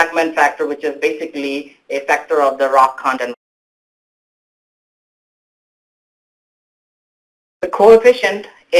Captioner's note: audio drop out